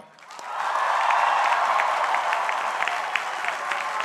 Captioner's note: crowd cheering